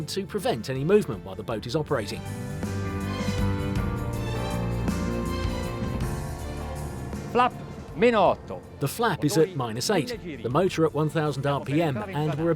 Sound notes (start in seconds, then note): 2.3 exultant music; 7.4 speaking in foreign language